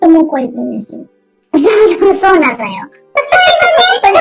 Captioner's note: laughs